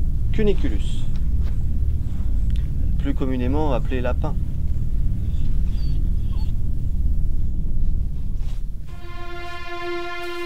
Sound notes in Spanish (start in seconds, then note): 5.2 Gañido